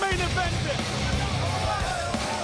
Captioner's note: crowd chatter